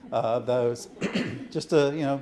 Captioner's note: audience chuckling